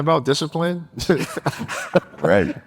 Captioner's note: group laughing